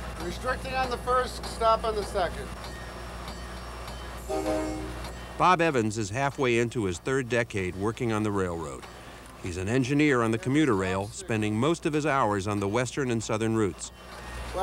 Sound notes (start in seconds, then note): 4.2 train honks